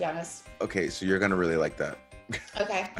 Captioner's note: laugh